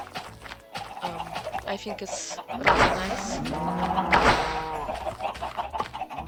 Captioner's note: mooo moooooooooooh; more loud animal noises